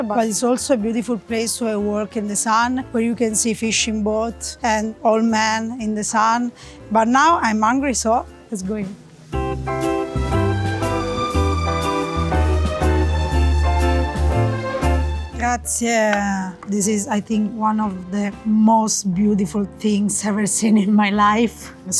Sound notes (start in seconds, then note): 9.3 bright whimsical music; 15.4 speaking in foreign language